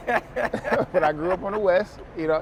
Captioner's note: laughs